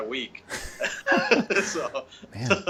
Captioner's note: men chuckling